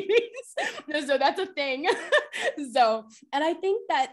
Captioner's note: laughter